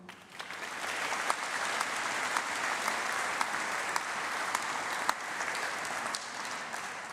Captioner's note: applause